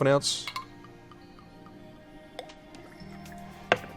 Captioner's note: glugging; liquid pours; clinks